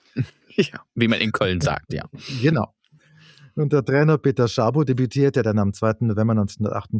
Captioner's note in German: schnauben